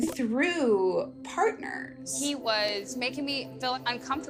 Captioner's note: soundbite of archived recording